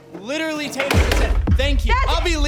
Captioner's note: chair thudding